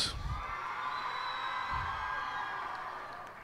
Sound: cheers and applause

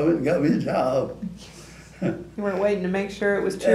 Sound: laughs

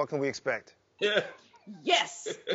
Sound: laughs

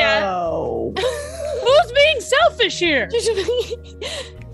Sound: laugh

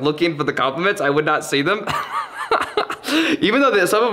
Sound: laughs

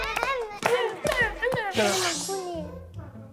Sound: applaus!

